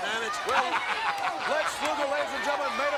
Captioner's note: Ted laughs